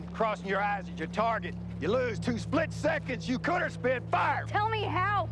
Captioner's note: yelling